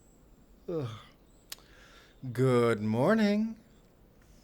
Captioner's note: yawning